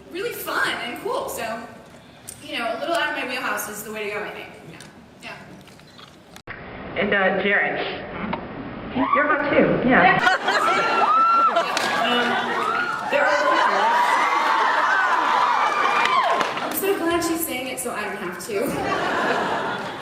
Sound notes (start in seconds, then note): 10.2 laughs, cheers; 18.6 laughs